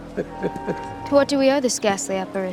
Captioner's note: Gomez chuckles